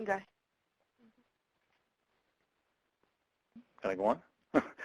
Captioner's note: talking in Background; laughs